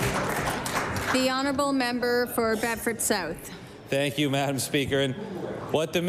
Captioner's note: applause